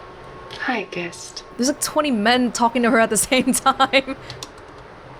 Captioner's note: chuckles